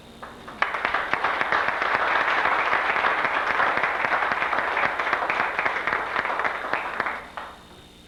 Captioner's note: applause